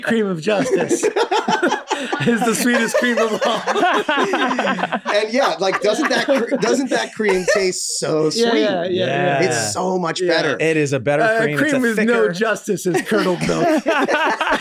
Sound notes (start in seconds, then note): 3.7 group laughs; 14.3 group laughs